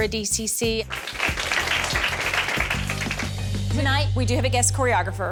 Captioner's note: applause